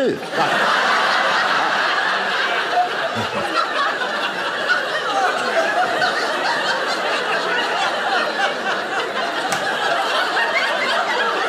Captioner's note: audience laughing